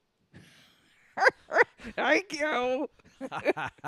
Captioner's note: Leia cackles and makes fun of Luke